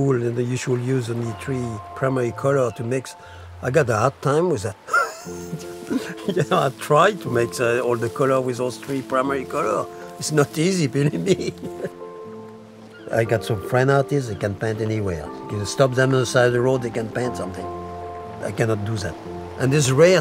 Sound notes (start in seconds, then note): 4.8 laughing